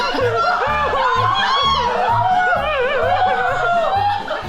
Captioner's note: uncontrolled joy